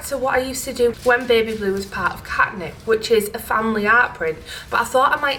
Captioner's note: none